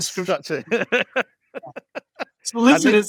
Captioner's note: laughs